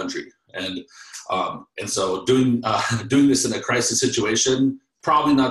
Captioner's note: laughs